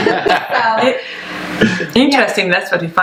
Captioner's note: laughs